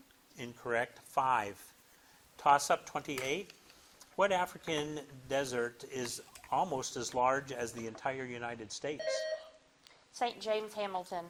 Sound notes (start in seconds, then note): 9.0 bell dings